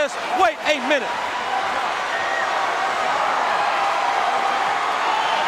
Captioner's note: audience cheering